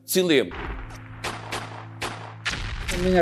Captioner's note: sounds of shots